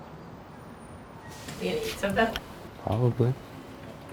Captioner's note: quiet chattering